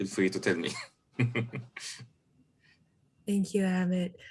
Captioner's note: laughing